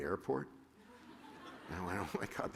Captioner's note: laughter